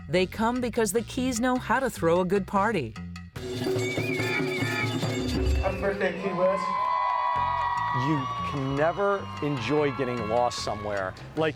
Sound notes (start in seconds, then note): 3.9 energetic music; 7.3 people cheering